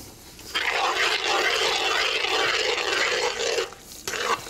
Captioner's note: spoon stirring